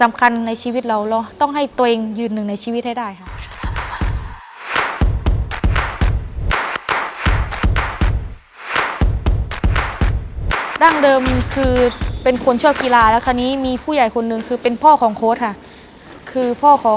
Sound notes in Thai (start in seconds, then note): 6.5 ปรบมือ